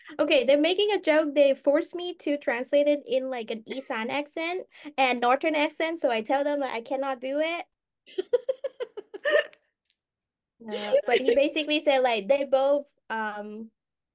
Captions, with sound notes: Ok, they're making a joke. They forced me to translate in an Isaan accent. (Speaking with an Isaan accent) And a Northern accent. So I told them that I cannot do it. (Speaking with an Isaan accent) But he basically said they both, uhm. (Speaking with an Isaan accent)